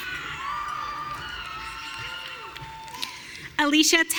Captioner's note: audience cheering